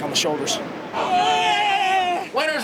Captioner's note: students cheer